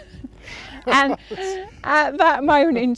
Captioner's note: laughing together